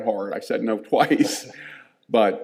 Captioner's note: chuckling